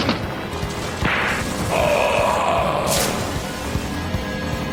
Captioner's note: grunting; wood crashing; tense music